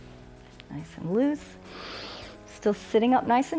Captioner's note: inhales